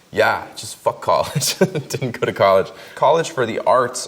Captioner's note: laughs